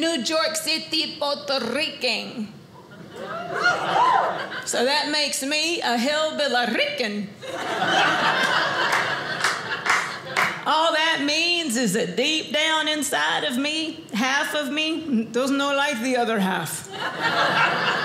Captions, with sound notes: New York City Puerto Rican, (audience laughing) so that makes me a Hillbill-Rican. (audience laughing) All that means is that deep down inside of me, half of me, (Spanish accent) does no like the other half. (audience laughing)